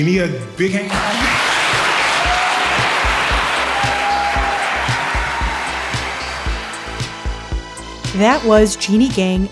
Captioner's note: audience applause; theme music plays